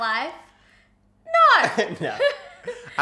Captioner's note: chuckles